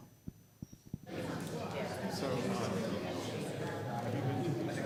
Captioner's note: crowd murmuring